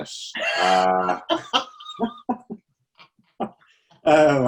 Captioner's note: both laughing